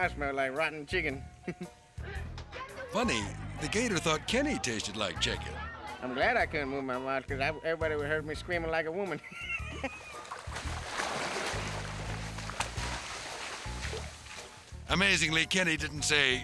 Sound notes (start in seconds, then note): 1.4 chuckling; 9.1 chuckling; 9.8 water splashing